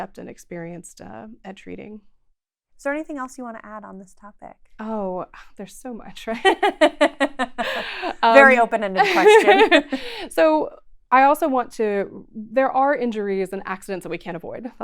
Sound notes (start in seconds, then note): 6.3 laughs